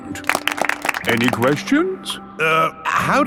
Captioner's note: all clapping